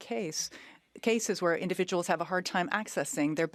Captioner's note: speaking French